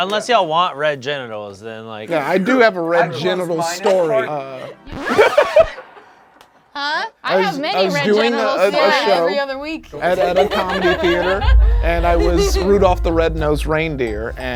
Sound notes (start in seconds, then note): 4.9 record scratching